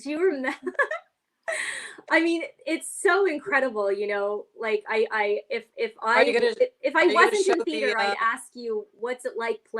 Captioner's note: laughs